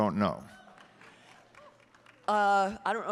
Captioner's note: audience applauding and cheering